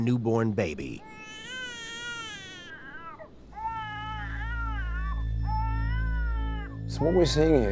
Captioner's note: recording of baby crying playing